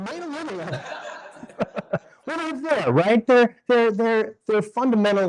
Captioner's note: laughs